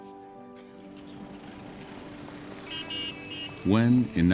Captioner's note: honking